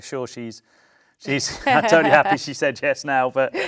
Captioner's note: laughs